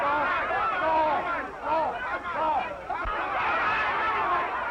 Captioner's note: crowd yelling